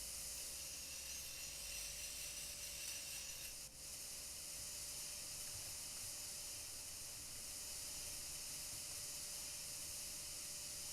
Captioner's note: electric sawing sound